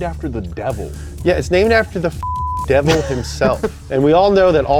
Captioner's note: beep